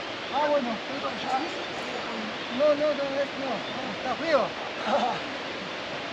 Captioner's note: laughs